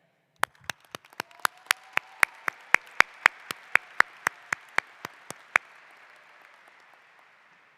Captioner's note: applause